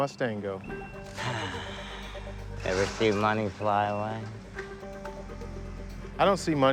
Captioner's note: sighs